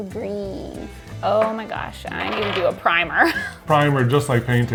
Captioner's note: laughs